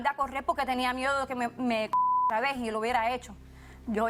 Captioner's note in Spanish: Bip